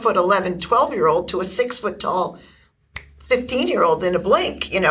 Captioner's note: snaps fingers